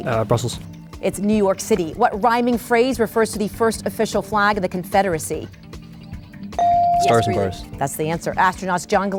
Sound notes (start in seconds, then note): 6.6 bell dings